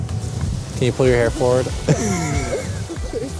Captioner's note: chuckling